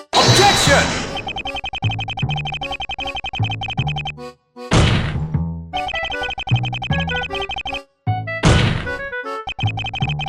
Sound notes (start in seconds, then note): 4.4 speechless desk slam; 8.4 angry desk slam